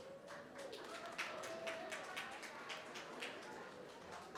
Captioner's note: applause